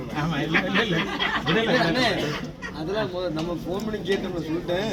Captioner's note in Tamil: சிரிப்பு